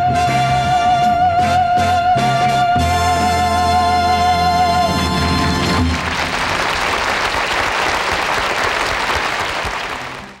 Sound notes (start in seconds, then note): 0.0 upbeat band music; 5.8 audience clapping